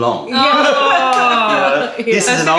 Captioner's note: laughter